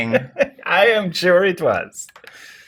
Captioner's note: laughs; guy laughs